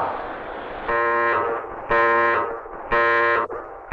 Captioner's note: alarm blaring